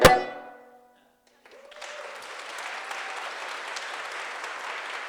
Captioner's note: applause